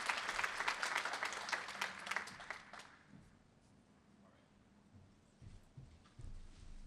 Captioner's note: applause